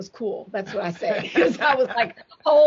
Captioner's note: chuckles